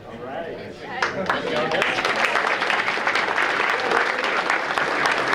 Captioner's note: audience applauding